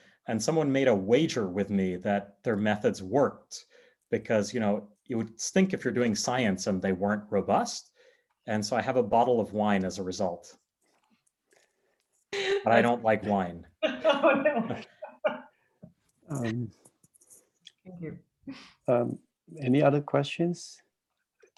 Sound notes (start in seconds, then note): 13.9 chuckles; 14.0 laughing